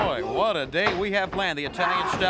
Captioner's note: crowd chatter